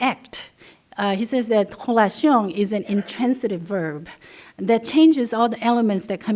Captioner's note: non-english